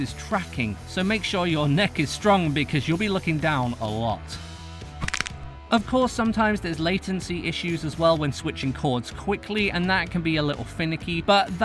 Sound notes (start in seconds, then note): 5.0 neck snap